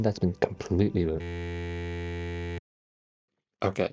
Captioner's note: audio glitches out again